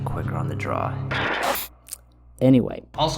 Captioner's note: static